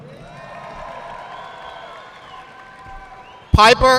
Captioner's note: audience clapping